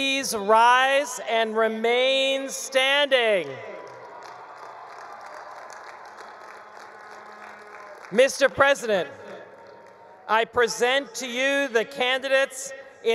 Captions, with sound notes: please rise and remain standing? (attendees cheering) (attendees applauding) Mr. President, I present to you the candidates